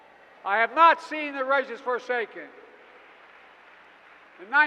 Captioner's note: applause